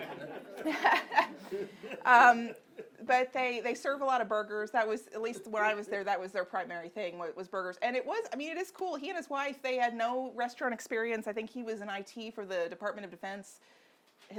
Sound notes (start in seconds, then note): 0.0 audience laughing; 0.0 laughs